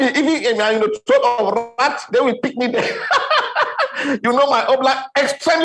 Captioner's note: laughing